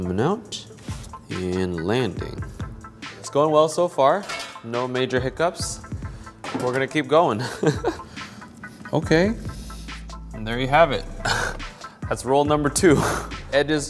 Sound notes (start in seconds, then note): 7.4 laughs; 11.6 chuckles